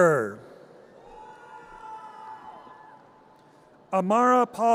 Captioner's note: audience cheers